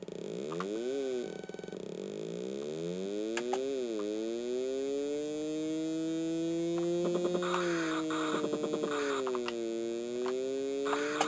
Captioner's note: Pole Position noises